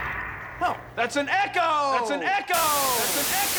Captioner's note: crashing echoes; echoing